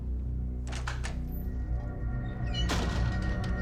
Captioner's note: door opens, closes